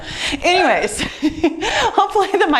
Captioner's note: laughs